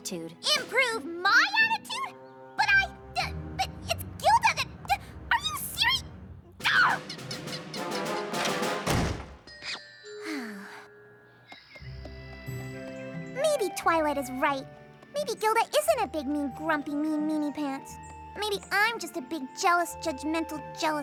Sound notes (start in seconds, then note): 6.6 shrieks; 8.3 door opens, slams; 10.2 sighs